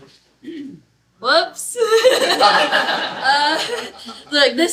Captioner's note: laughter